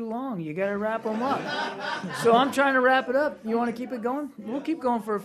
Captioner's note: laughter